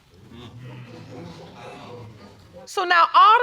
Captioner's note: audience clamoring